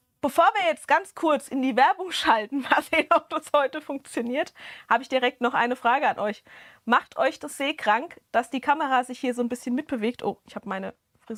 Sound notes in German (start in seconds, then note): 2.5 gelächter